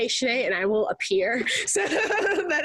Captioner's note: laughs